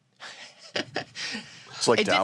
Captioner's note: laughs